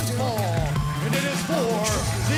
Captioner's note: bell ringing